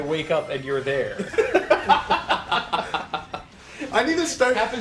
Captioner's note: laugh